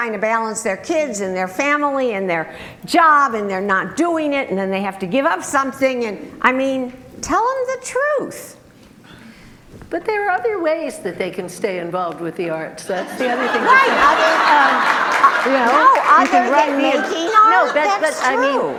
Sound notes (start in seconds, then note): 12.9 group laughter